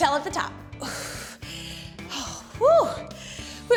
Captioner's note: exhales